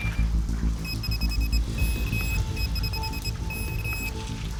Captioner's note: rapid beeping